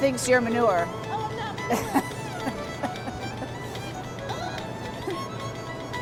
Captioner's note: laughs